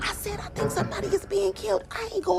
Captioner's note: metal clanging